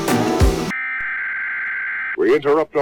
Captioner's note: long beep